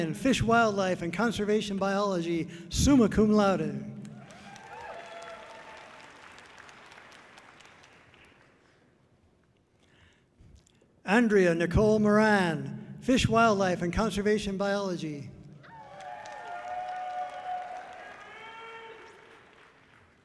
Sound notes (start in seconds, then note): 4.2 audience cheering loudly; 15.6 audience cheering loudly